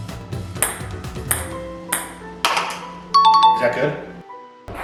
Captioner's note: ping pong ball bouncing